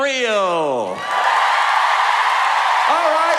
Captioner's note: cheering